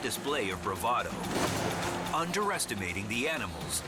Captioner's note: cape flaps